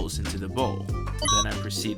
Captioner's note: beep